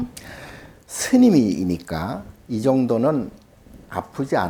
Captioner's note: speaking Korean